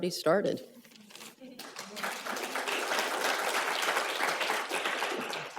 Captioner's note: applause